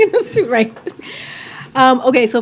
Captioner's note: laughs